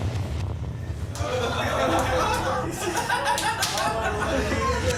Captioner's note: laughter